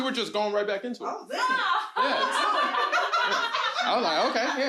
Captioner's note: group laughs